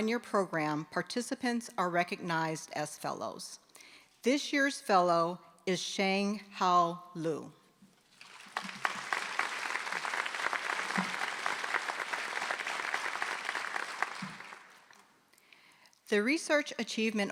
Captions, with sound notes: are recognized as fellows. This year's fellow is Sheng Hao Lu. [ Applause ] >> the research achievement